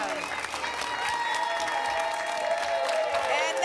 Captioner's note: applause and cheering